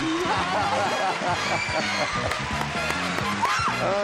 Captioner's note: audience cheering loudly